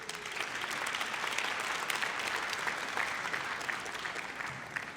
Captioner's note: audience applauds